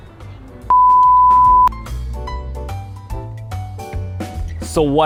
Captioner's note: standby buzzing